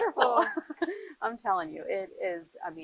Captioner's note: laughing